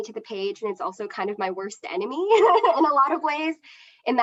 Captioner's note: laughs